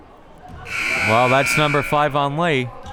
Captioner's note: siren blaring